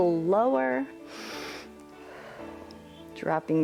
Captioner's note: inhales and exhales